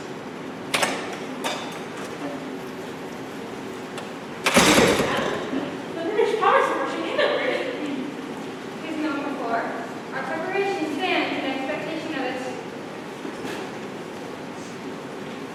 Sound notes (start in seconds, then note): 1.9 door opens offscreen